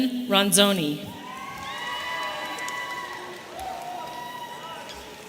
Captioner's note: audience cheering